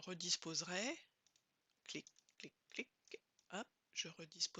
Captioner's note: click click click hop!